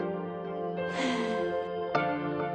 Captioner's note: sigh